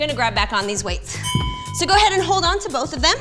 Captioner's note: bell chimes